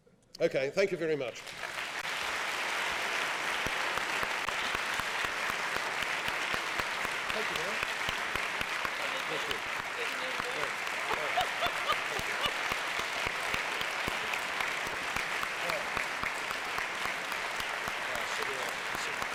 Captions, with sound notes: OK, thank you very much. [APPLAUSE] [LAUGHING]